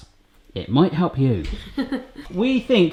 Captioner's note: laughter